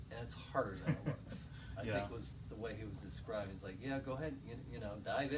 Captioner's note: laughter